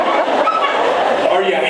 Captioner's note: laughs